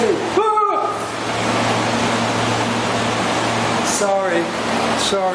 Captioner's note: yell of surprise